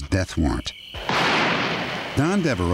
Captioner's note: gunshot